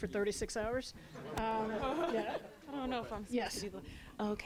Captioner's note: laughter